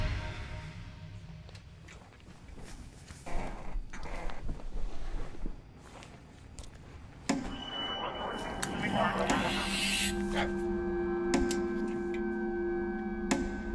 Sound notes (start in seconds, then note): 7.5 distorted sounds; 9.6 ball slowly bouncing on floor